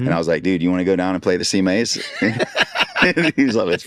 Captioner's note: laughing